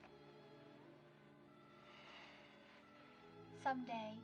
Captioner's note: siren Wailing In Distance